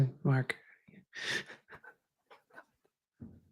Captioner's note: chuckles